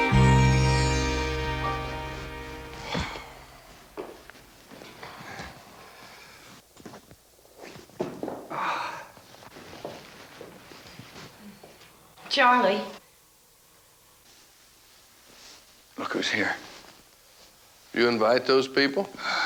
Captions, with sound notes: (music fades) (Joe exhaling) - Charlie? - Look who's here. - You invite those people?